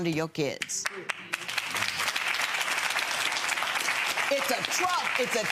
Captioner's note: audience clapping